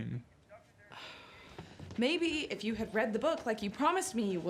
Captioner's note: scoffs